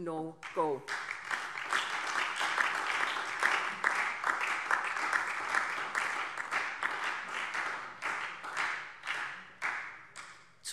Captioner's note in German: Beifall SPD und DIE LINKE